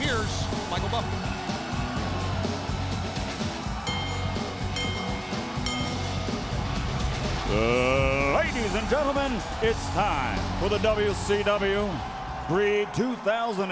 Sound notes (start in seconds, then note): 3.8 bell ringing